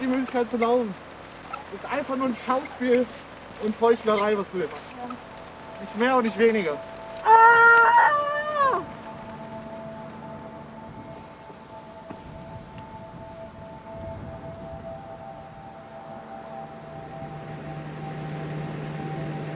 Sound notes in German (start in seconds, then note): 7.2 Schrei; 13.9 sphärische Musik